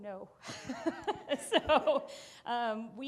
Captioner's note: laughing